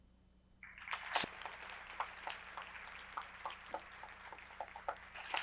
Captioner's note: audience applauding